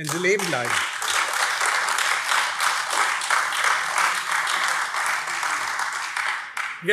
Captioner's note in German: Beifall AfD